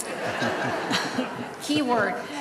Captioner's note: laughter